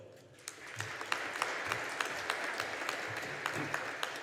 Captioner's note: audience applauding